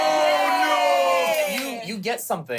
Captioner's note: everyone cheers